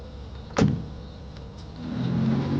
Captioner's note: car door closing